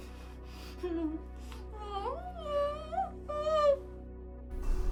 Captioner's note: Kathy crying